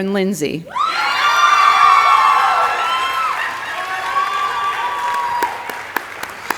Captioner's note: audience applauding and cheering